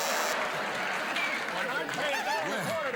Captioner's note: cheers and applause